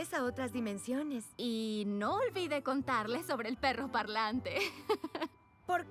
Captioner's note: giggle